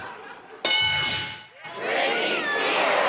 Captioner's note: bell dings